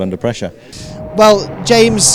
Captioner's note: engines roaring